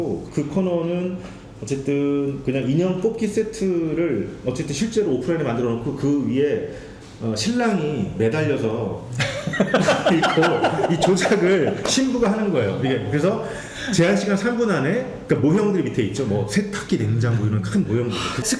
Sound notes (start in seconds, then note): 9.2 laughing